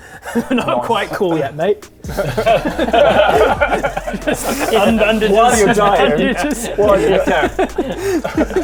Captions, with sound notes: Not quite cool yet mate! *gutter-mind laughter* - just in bandages - what are you tying? you just what're you